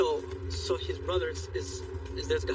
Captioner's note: speaking in english